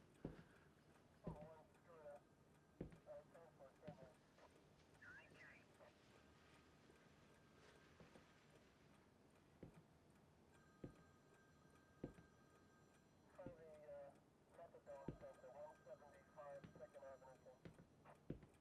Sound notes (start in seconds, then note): 1.2 phone ringing; 1.2 police radio chatter; 10.2 footsteps tapping; 10.6 phone ringing; 13.3 police radio chatter; 14.8 phone ringing